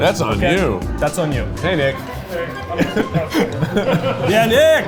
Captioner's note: laughs